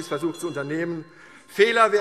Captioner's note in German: Zurufe SPD und DIE LINKE - Glockenzeichen